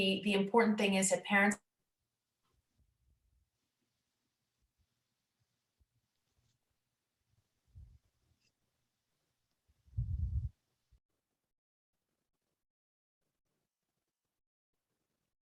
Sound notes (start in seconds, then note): 5.5 audio lost